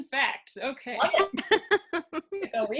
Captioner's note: laughing